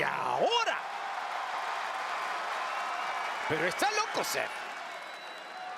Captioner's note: applause